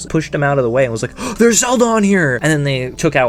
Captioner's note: gasp